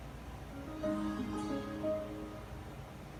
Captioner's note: TV starts up